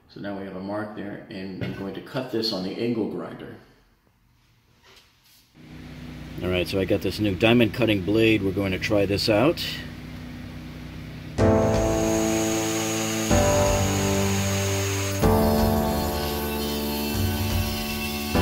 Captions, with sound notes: So now we have a mark there and I'm going to cut this on the angle grinder. All right, so I've got this new diamond cutting blade, we're going to try this out. (saw hums) (intense party music)